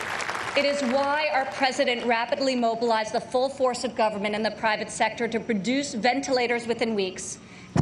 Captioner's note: applause